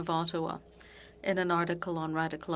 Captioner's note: speaking French